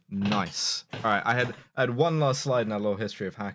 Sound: none

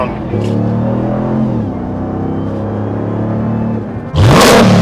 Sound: vehicle engine roaring; vehicle engine revving

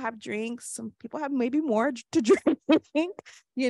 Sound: laughs

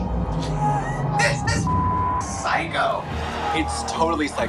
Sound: beep

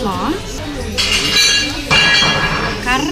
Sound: broken plates sound

